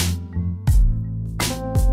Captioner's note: none